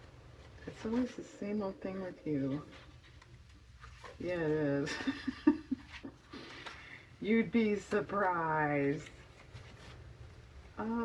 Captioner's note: laughs